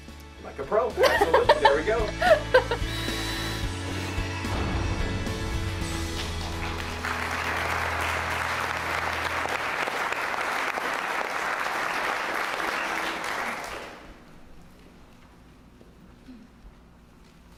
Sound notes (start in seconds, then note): 1.0 laugh; 5.8 applause